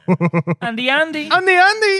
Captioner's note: laughing